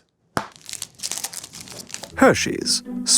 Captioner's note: wrapper tears